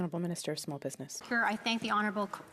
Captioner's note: speaking in French